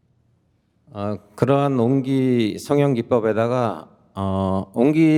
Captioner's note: speaking in Korean